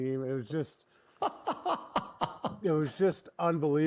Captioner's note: laughs